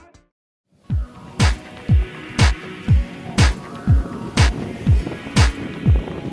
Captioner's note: some wind from the ocean